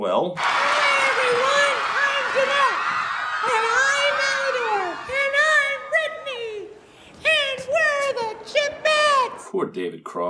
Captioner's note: crowd cheers then quiets